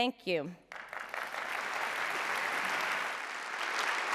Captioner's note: applause